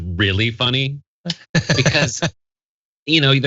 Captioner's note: laugh